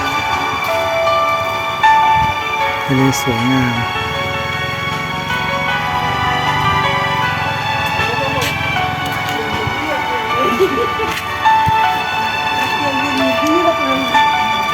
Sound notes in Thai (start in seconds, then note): 3.7 ปรบมือ